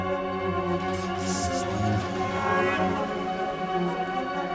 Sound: quietly spoken

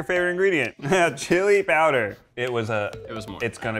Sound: chuckling

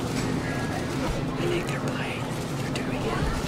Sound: whispers

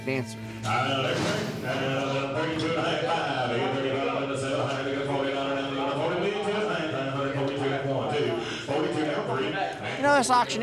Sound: auctioneer speaking rapidly

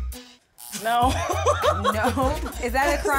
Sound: buzzer buzzes; laughs

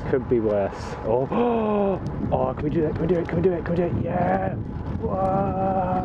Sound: inhales

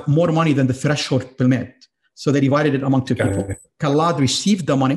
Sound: audio distortion

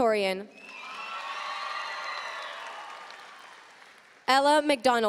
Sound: audience cheering and applauding

